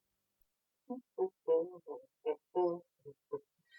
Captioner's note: humming